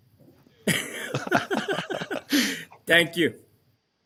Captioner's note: laughter